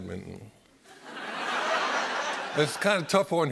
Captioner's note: laughter